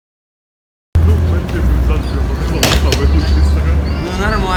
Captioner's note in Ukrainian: шум міста, голоси людей